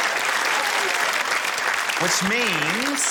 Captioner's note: cheering, applause